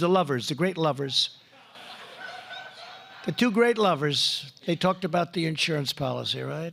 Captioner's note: laughter